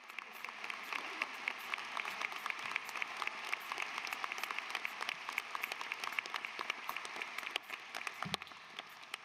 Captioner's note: applause